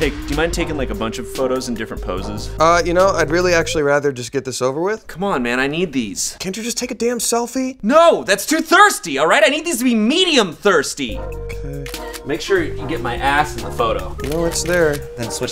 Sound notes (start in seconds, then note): 11.8 camera clicks